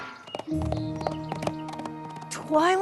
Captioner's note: hoofbeats